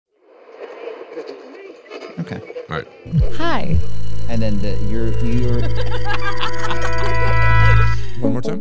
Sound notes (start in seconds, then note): 0.9 radio static chattering; 5.4 all laughing